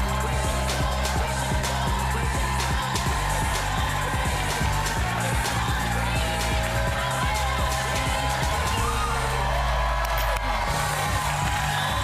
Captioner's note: cheers and applause